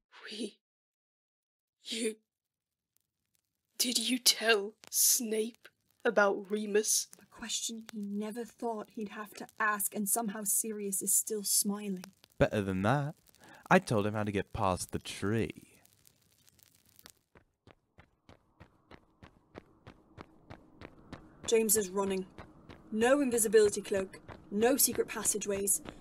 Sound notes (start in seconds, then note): 17.6 running